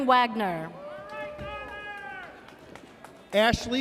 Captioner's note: audience cheers